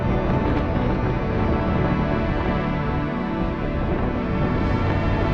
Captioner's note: wind whipping